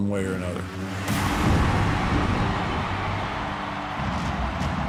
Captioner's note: audience roars